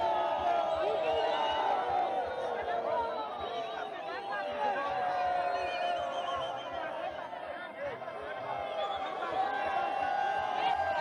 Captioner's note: cheering